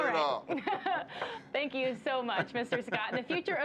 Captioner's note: laughter